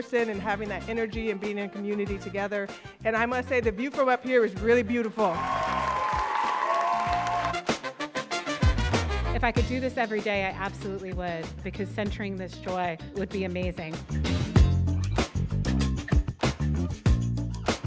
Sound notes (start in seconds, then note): 5.3 audience cheering and applauding; 7.9 bright upbeat music; 14.4 bright upbeat music